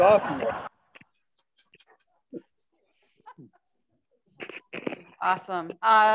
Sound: laughter

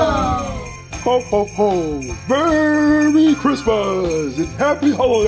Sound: Santa Voiceover

